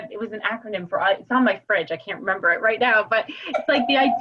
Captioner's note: laugh